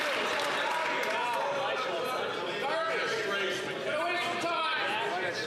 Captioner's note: some Applause